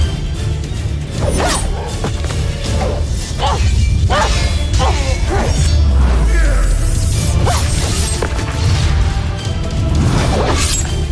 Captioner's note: weapons swooshes; swishing, clanging, thudding; grunting, growling, groaning; music swells